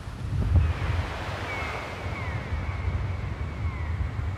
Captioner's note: seagulls cawing